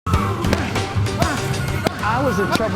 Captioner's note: grunts